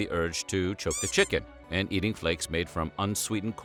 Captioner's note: squeaky toy sound